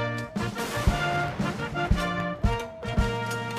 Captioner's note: gunshots